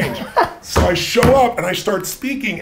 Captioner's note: Gary laughs